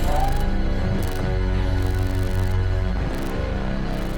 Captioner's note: choking sounds